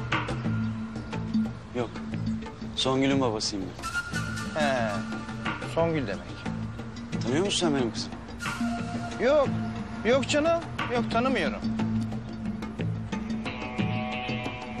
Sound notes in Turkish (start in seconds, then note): none